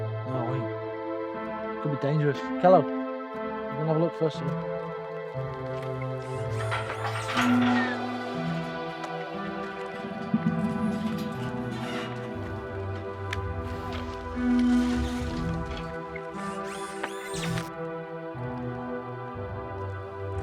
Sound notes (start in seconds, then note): 6.5 Kellogg's neck whirring; 6.5 gate clattering; 9.2 soft eerie synthwave continuing; 16.4 Kellogg's neck whirring